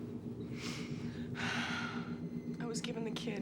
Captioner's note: sniffles; sighs